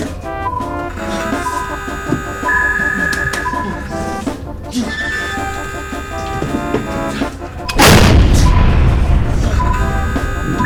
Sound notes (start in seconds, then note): 0.0 alarm sounding; 0.0 intense Music; 7.7 explosion